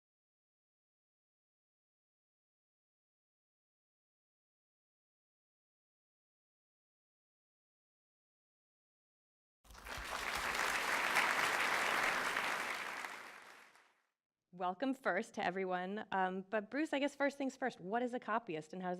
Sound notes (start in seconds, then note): 9.6 applause